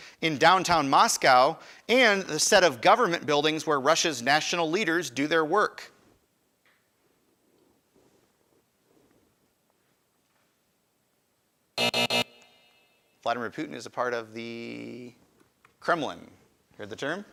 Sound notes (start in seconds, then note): 11.8 alarm buzzes